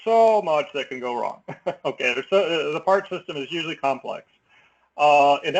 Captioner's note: laugh